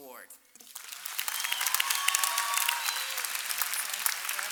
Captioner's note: applause